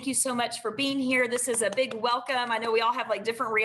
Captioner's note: claps